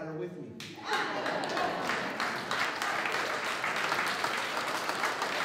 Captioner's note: applause